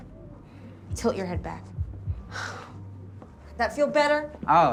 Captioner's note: sigh